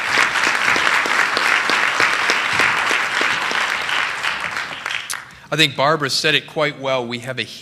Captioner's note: applause